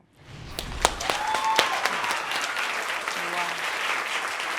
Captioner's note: applauding; audience cheering and applauding